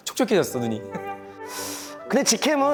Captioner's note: sharp inhale